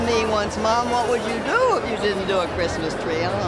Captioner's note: laughs